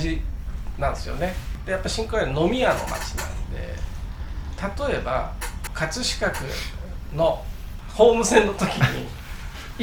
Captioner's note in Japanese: 鼻息